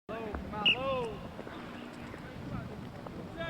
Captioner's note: whistle